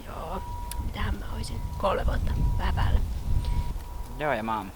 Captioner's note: wind blows